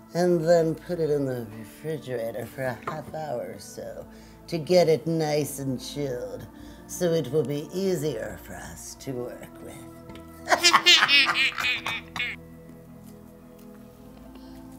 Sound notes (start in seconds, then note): 10.5 witchy laughing